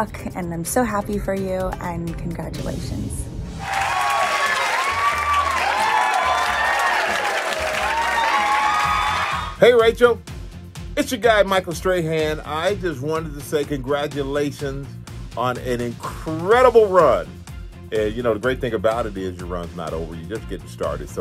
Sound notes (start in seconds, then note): 3.6 audience applauds; 6.7 audience cheers